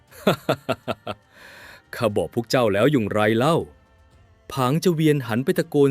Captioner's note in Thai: เสียงหัวเราะ